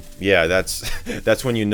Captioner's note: laughs